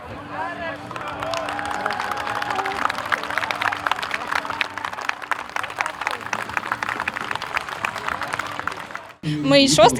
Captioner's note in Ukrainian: оплески